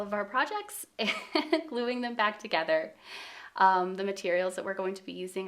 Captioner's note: chuckles